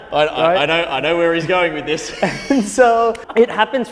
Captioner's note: laughs